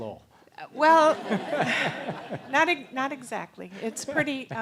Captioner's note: laugh